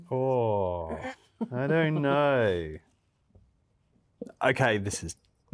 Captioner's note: laughs